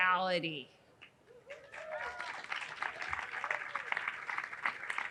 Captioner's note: audience cheering